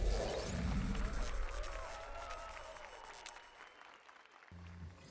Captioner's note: applause and cheers